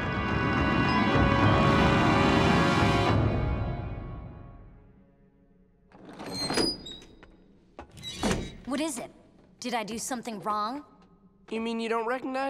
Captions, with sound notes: [ominous music playing] [door opening] What is it? Did I do something wrong? You mean you don't recognize me?